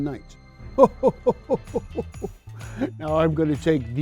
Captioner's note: Santa chuckles